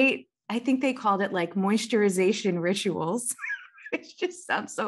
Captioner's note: laughs